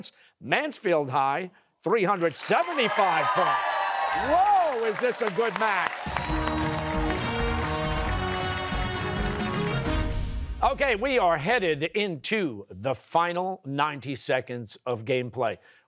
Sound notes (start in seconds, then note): 5.9 cheers and applause